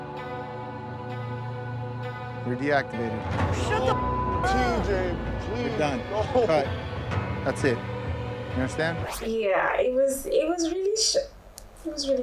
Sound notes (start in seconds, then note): 0.1 somber music; 4.0 beep